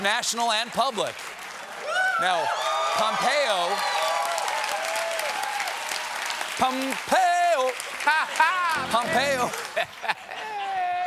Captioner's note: cheers and applause